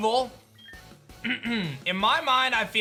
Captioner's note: clears throat